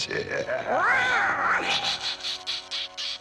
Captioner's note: reoww